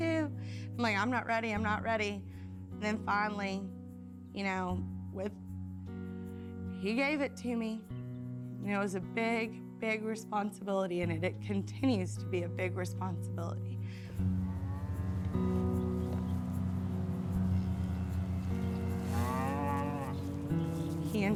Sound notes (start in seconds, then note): 14.0 cows lowing; 19.3 gentle music continues